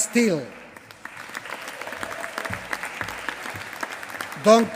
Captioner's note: applause